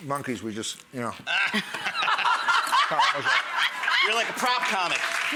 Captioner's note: laughing